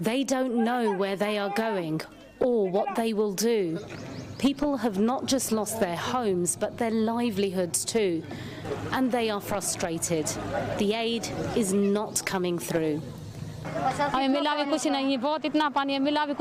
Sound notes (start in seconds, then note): 1.9 speaking non-english